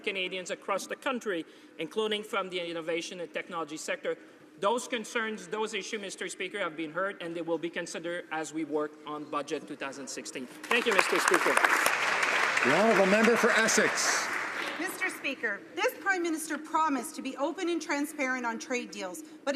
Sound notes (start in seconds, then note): 14.2 some Applause